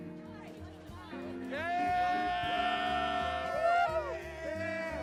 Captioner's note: cheering